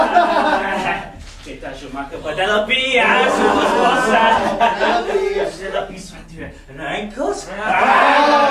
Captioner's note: speaking grammelot; speaking grammelot